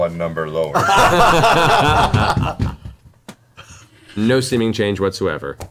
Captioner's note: all laugh